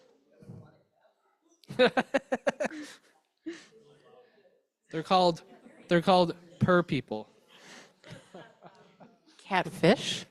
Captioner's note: chuckles